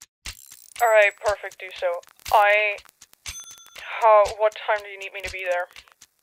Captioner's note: distantly, over a staticky phone line